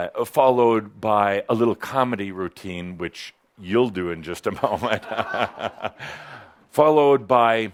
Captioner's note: Adamus chuckles